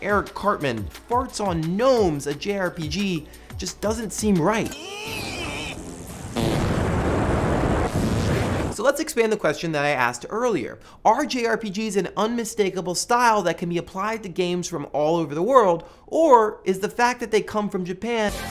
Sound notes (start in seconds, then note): 4.7 groan; 5.0 fart